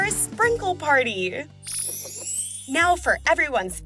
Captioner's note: chime